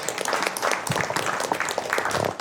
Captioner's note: applause